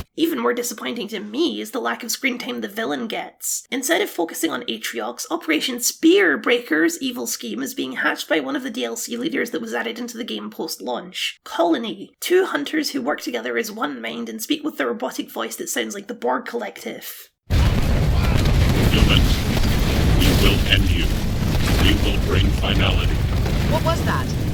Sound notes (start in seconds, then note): 17.5 battle Noises